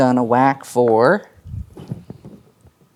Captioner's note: dice rolling